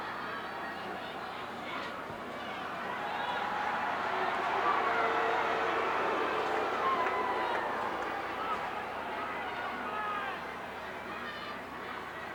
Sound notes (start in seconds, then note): 5.3 crowd boos